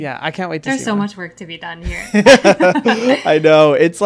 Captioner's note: laughs